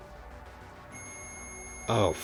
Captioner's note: continuous beeping